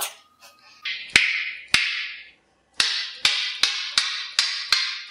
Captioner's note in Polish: naśladuje odgłosy stukania